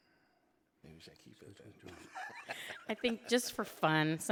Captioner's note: laughing